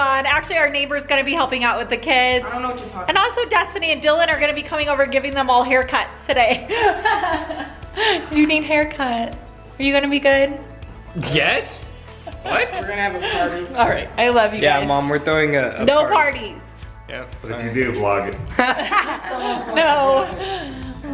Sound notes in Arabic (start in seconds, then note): 18.5 يضحك